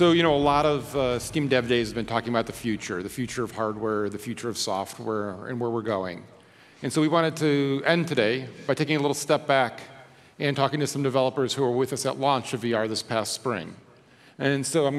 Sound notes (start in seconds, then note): none